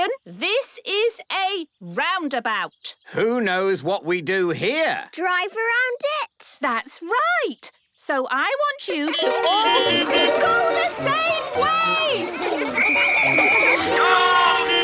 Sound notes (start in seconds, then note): 9.1 beeping; 12.7 whistle blowing